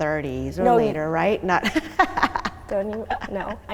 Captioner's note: laughing